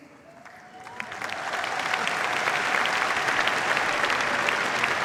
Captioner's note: cheers, applause